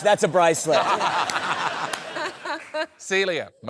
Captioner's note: laughter